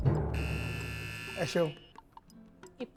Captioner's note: buzzer pressed